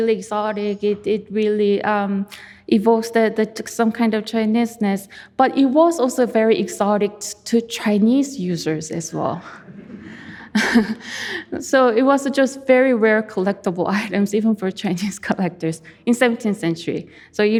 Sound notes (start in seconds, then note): 9.7 chuckling; 9.7 audience chuckling